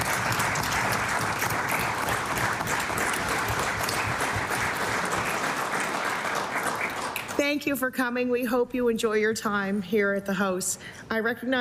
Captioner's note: applause